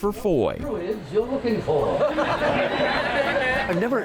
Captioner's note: crowd laughs